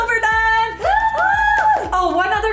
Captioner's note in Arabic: هتاف